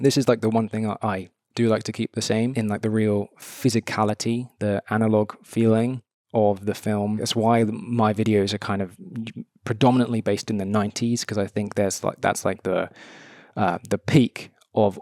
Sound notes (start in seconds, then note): none